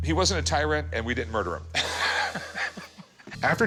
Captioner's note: laughs